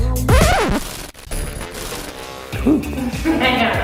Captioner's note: static